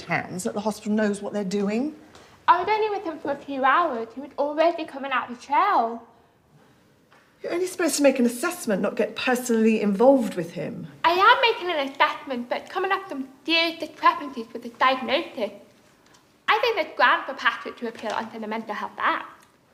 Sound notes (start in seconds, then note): none